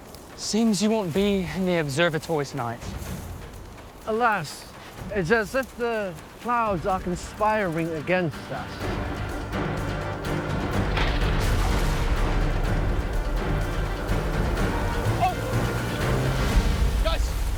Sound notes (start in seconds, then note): 12.0 thunder breaks